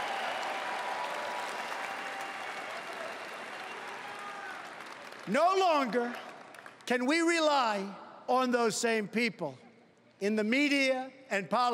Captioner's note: cheering and Applause